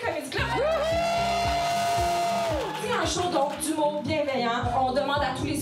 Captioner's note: shouts and applause